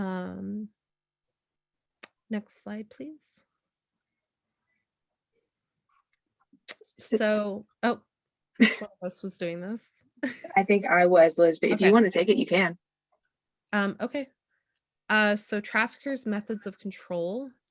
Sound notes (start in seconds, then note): 7.1 laughter